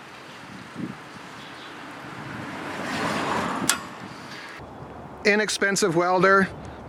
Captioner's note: passing cars in background